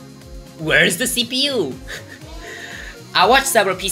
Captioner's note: wheeze